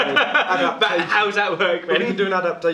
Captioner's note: laughs